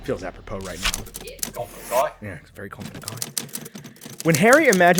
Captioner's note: accented